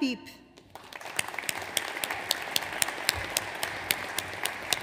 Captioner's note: audience applauds